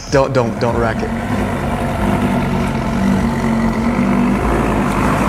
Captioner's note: car engine revving